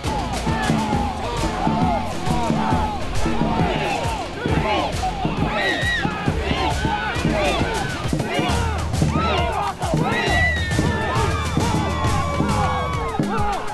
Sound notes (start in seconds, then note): 3.8 cheering